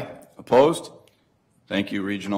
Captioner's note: multiple voices